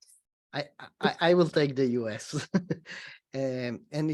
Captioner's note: laughs